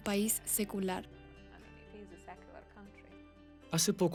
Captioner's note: Hablando idioma extranjero